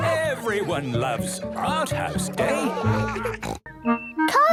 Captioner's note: laughter